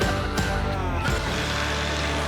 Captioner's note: drilling